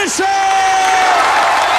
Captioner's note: crowd cheering